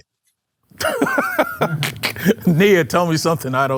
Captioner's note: laughter